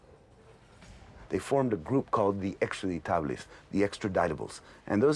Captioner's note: speaking in non-English